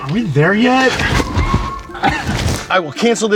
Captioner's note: tires screeching